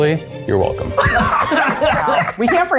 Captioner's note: laugh